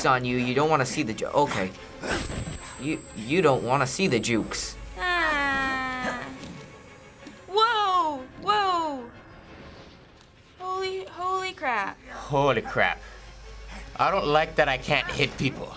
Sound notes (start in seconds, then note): 5.0 whimpering